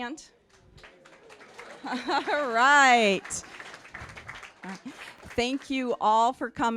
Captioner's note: chuckling; applause